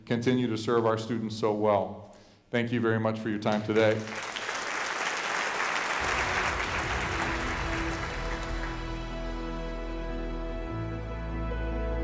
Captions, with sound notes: continue to serve our students so well. Thank you very much for your time today. (audience applauding) (soft piano music)